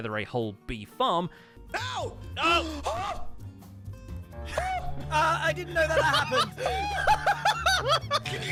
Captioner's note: gasps; hysterical noises